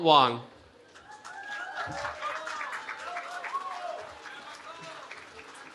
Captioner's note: cheering